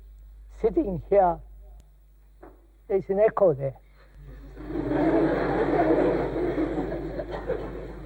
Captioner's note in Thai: หัวเราะ